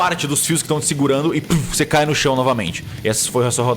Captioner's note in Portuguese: Puff